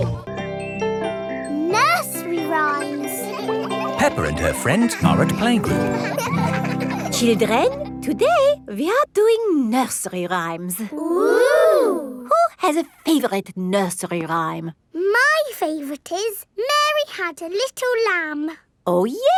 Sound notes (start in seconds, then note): 6.1 children laughing